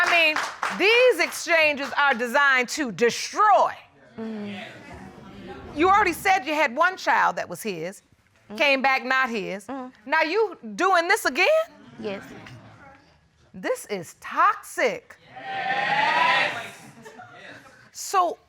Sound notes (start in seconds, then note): 4.4 audience murmuring in agreement